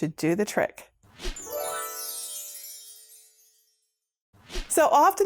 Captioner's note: stars twinkling; air whooshing